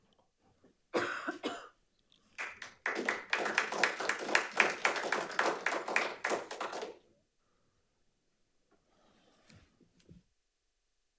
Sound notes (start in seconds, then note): 1.0 audience member coughing; 2.3 audience applauding